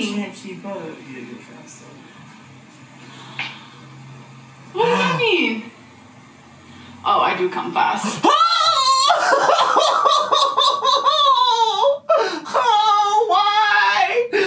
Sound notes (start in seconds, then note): 8.5 yells and groans